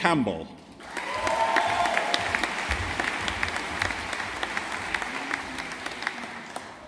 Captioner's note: audience applauding